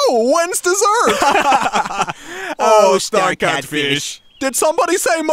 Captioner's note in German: lacht